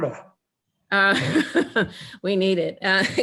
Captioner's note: laughing